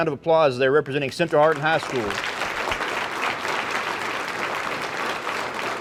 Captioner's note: audience applauding